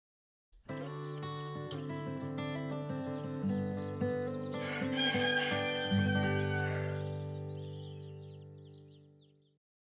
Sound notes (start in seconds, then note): 0.6 gentle guitar music; 4.6 rooster crowing; 4.8 birds chirping